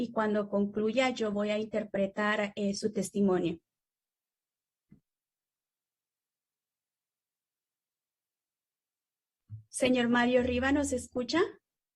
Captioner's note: speaking spanish